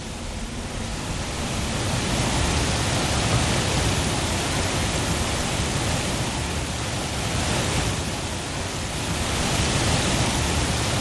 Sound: rushing water

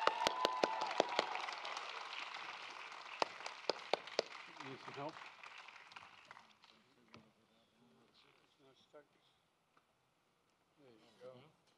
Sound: applause

